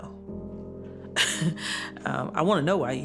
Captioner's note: laughs